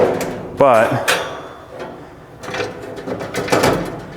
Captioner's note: metal clanking